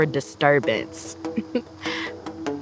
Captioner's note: chuckles